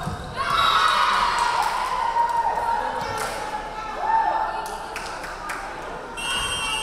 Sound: crowd cheering; referee whistling

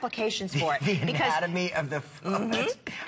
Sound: laughter

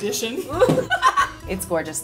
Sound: laughing

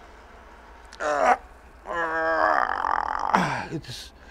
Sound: groaning

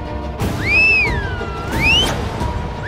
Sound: whistles

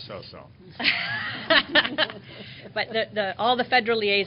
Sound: laughter

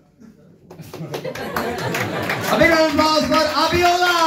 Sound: big round of applause

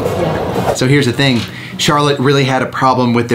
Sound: screen swooshes

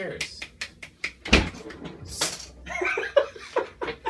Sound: laughs

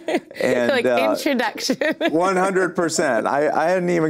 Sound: laughs

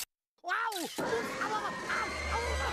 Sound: Daffy yelping

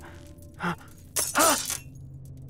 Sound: gasping; gasping

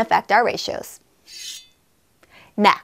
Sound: sword clash sound

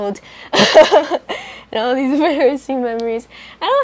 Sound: laughs

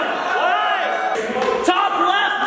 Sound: group cheers

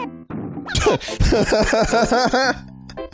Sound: laughs

